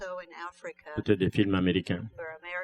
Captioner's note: speaking french